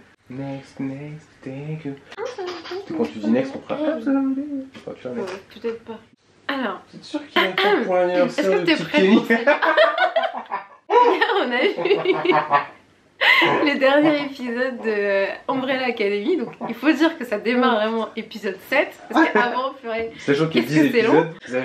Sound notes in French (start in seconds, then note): 9.2 rires